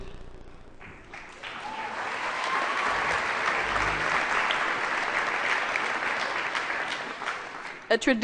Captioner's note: applause